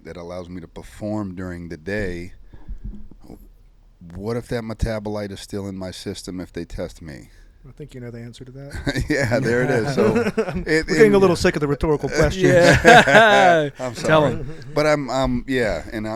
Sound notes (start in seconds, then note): 8.7 chuckles; 12.7 group laughs